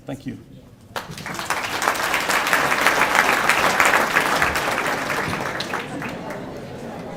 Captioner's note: applause